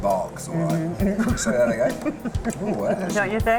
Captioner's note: laughs